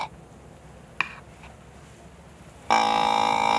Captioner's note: deer call grunts